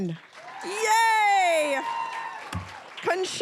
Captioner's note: cheering, applause